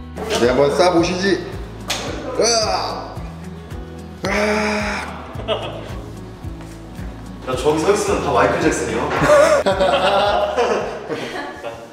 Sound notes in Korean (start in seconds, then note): 1.9 조명 켜지는 소리; 4.2 웃음소리; 9.1 다같이 웃는다